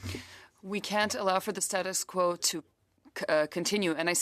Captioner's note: speaking French